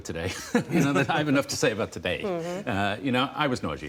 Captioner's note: laughter